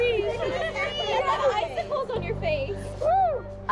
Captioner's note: laughter